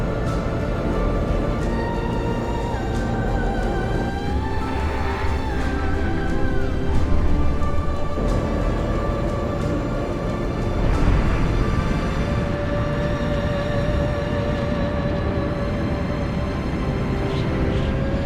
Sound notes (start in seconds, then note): 1.0 choir singing; 13.0 sound of wind rushing past